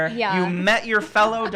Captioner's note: laughing